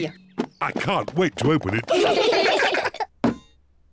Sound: all giggle

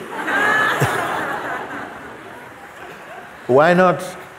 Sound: laughter

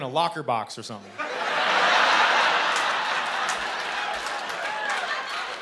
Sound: laughter and cheering

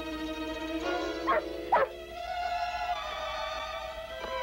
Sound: Shep barking

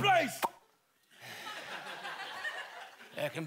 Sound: pop

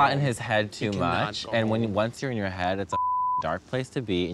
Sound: beep

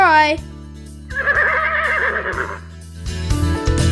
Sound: neigh

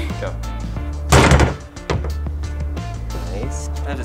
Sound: metal clanging

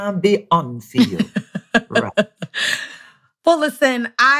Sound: laughing

